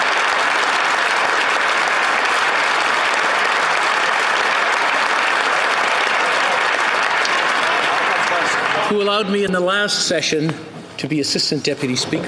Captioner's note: applause